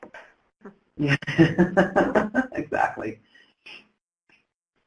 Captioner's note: laughs